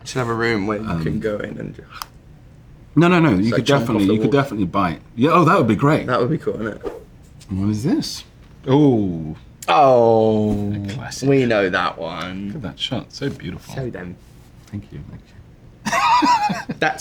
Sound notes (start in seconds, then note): 6.7 slide swipe; 10.5 slide swipe